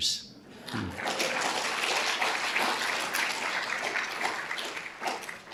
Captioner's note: audience applauding